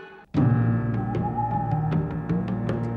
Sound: owl hoots

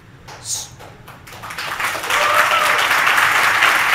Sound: crowd clapping

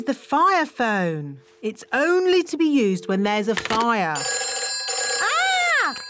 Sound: phone rings

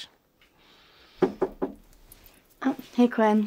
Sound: knocking

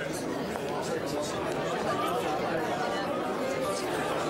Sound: people chattering

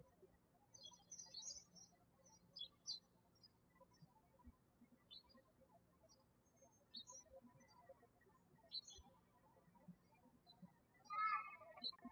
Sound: birds chirping

